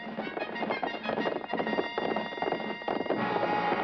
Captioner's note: hoofbeats